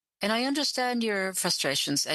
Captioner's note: speaking French